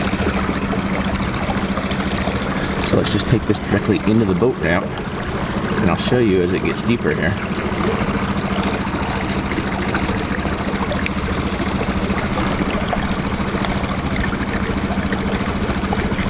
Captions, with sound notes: (water sounds) So let's just take this directly into the boat ramp and I'll show you as it gets deeper here. (boat engine running)